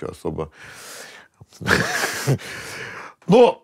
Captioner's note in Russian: усмехается